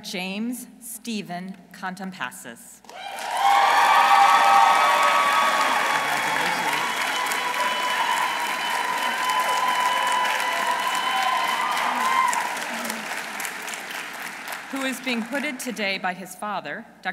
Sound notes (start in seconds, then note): 3.4 audience applauding; 3.4 audience cheering